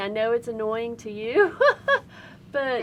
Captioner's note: laughing